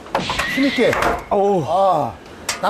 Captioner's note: pak!